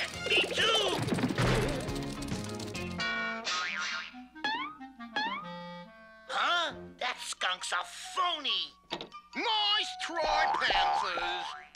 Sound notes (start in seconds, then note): 1.3 crashes